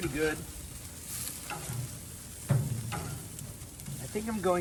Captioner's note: burgers sizzling